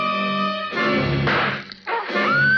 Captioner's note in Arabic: ضربات الفأس; صراخ